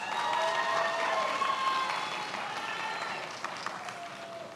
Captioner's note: many applauding